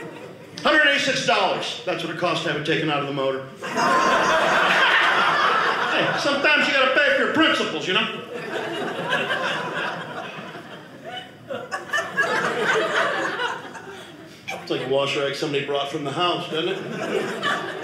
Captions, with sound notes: $186-- that's what it costs to have it taken out of the motor. (audience laughing) Hey, sometimes you got to pay for your principles, you know. (audience laughing) Looks like a wash rag somebody brought from the house, doesn't it? (audience laughing)